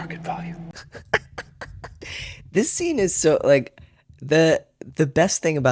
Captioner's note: laughter